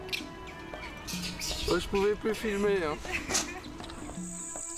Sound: French spoken audio

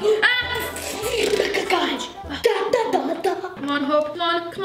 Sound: exclaiming

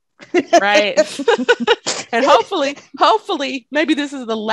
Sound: all laugh

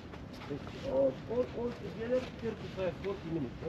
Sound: speaking in foreign language

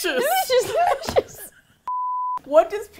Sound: laughs

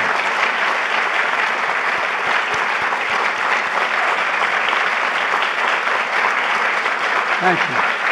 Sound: applause

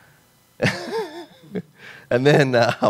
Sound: laughs

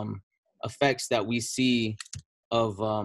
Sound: mouse clicks

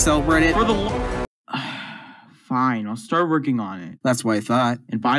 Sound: sigh

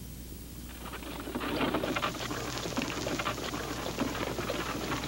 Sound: wagon rattling

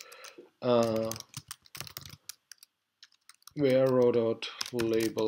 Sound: typing

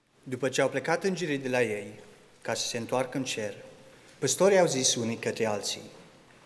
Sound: speaking in Romanian

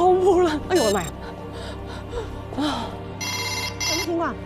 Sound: the deadly telephone ring rings

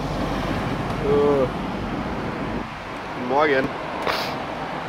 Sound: inhuman sounds

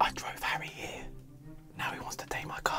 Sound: whispering

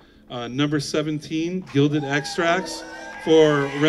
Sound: crowd applauds

